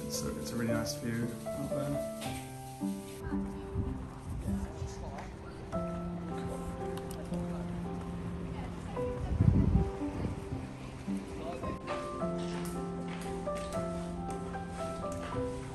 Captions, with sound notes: but it's a, it's a really nice view out there. (people talking at pool)